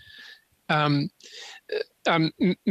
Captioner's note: speaking French